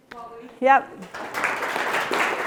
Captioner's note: applause